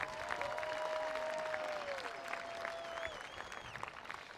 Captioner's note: attendees applauding